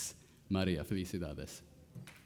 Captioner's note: speaking Spanish